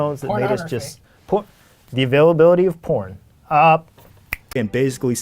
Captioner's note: snaps fingers